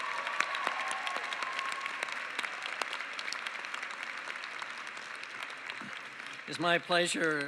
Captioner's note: applause